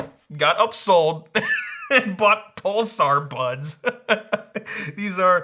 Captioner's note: laughs happily